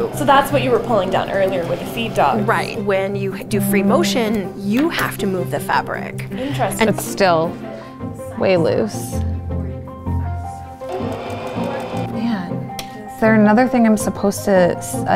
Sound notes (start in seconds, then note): 10.8 sewing machine whirring